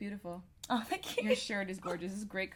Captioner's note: laughs